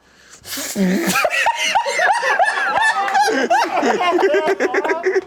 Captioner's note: laughs